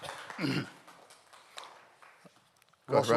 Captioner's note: audience Applauding